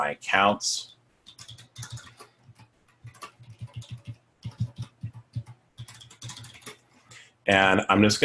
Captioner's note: typing